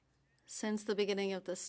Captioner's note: speaking French